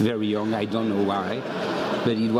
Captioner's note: laugh